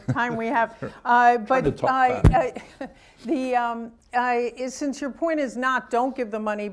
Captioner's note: chuckles